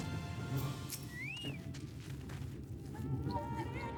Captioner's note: whistling